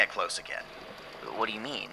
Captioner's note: blankets rustling